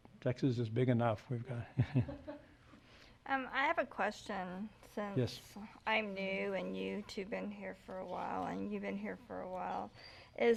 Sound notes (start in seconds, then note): 2.4 laughs